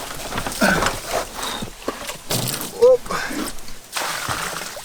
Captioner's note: panting; water splashing